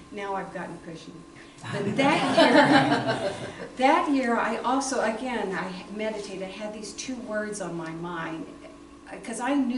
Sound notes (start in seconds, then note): 1.7 laughter